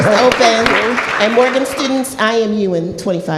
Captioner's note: applause